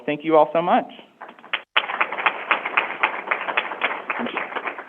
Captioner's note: crowd applauding